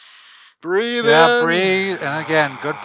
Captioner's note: inhales deeply